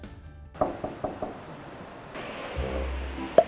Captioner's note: knock knock